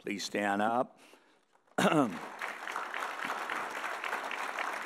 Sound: audience applauding

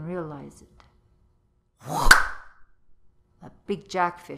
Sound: whoosh and clap

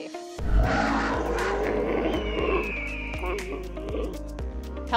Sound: animal noises

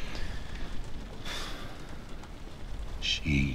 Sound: Hopkins sighing

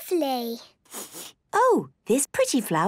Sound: sniffs

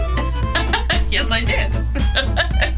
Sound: laughs

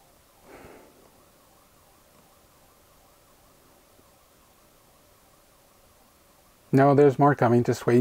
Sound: faint siren sounds in the background

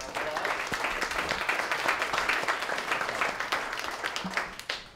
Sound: applause

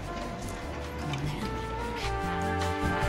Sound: whispers; upbeat trumpet music

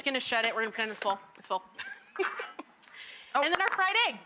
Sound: giggles

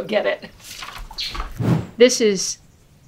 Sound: whoosh SFX

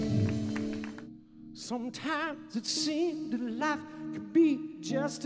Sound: applause

